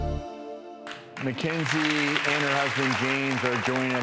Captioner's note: applauding